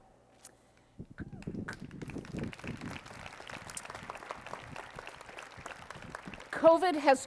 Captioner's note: applause